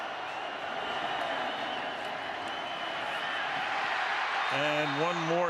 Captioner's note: cheers, applause